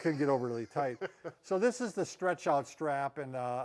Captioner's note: laughs